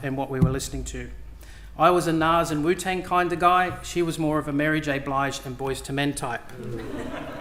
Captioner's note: laughter